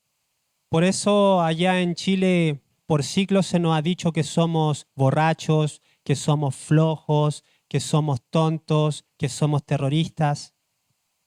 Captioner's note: speaks Spanish